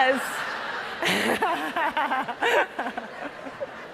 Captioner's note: all laughing